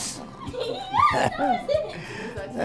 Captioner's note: everyone chuckles